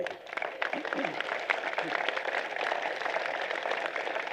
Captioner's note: applause